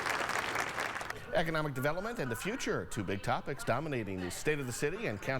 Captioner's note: applause